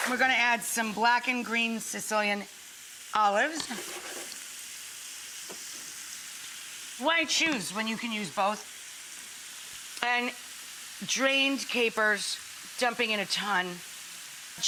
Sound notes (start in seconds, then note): 4.4 sizzling